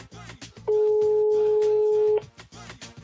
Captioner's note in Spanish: Tono de llamada